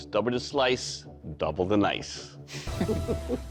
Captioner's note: laughter